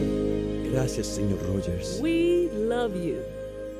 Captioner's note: speaking in Spanish